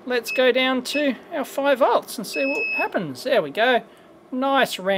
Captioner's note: beep